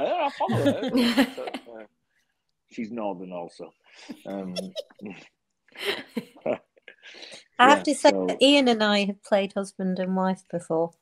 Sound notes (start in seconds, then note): 0.0 group laughing; 4.2 Christina laughing